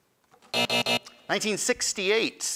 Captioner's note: end time buzzer rings